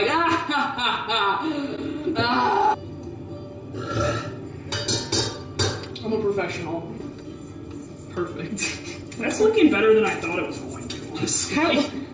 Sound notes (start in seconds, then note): 3.7 intense burp